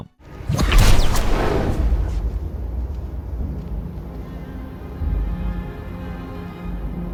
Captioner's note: spell blasting; dramatic music